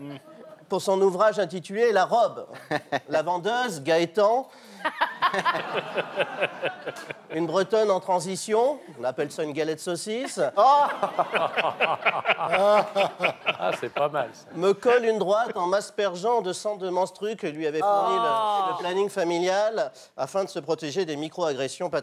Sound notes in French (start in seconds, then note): 4.9 rire